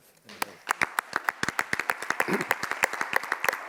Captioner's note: audience applauds